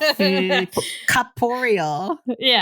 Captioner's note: laughter